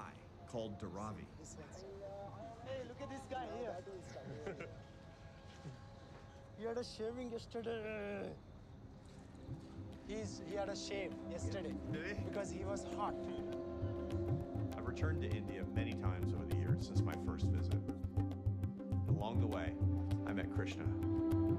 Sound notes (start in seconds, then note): 4.2 Arthur laughs; 13.4 Arthur chuckles